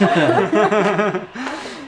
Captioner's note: laughter